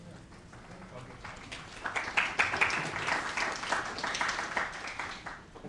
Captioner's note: applause